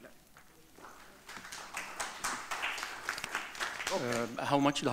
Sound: audience clapping

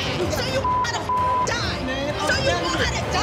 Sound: beep

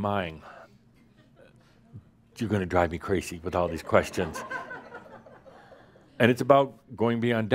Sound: some chuckles

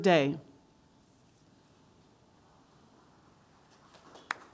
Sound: crowd applause

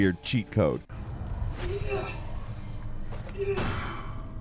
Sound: Isaac grunting

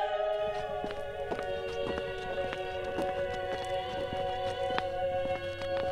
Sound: approaching footsteps

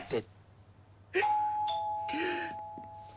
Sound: doorbell rings; relieved gasps

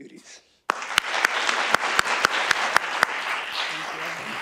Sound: audience applauding

